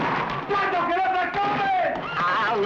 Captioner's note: shouting in Spanish